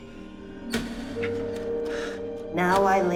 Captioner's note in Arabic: صرير الباب